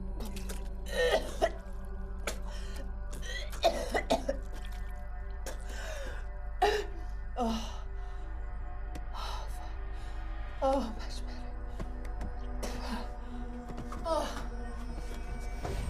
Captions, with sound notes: (Sara vomiting) (Sara breathing heavily) Oh, much better.